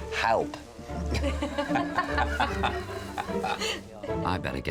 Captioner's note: laughs